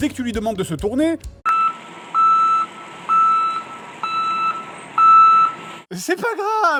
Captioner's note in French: bruits de camion-poubelle